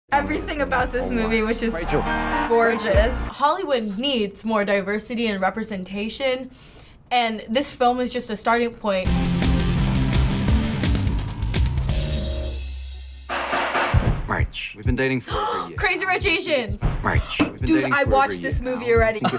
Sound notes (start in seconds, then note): 9.0 industrial intro; 15.2 gasps